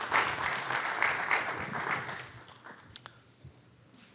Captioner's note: applause